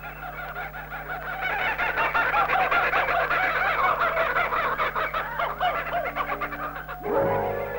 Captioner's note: Kookaburra song call